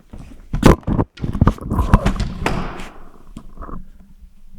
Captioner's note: camera thudding